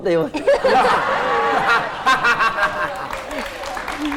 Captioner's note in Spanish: risa